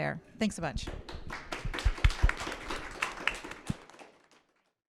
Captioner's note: attendees applauding